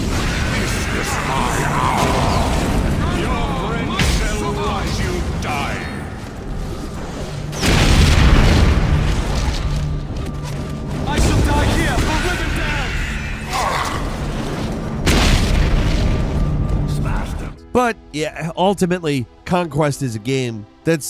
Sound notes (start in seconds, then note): 2.8 sounds of battle boom; 8.0 magic booms; 14.0 sounds of combat continue